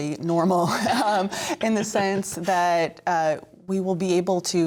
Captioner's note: laughter